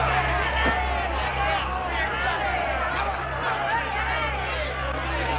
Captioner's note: crowd shouting